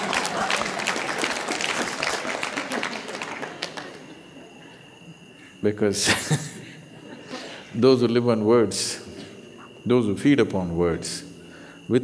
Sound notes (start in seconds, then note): 0.0 laughter/Applause; 6.0 laughs